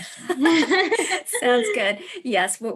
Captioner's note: both laugh